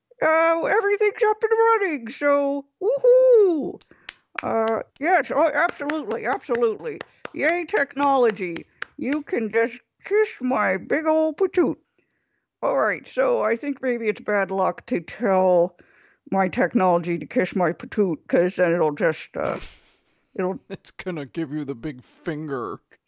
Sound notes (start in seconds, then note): 3.8 sound of one person clapping; 5.6 clapping